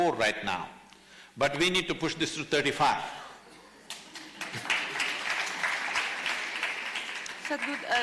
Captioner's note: applause